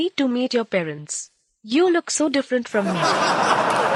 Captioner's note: laughter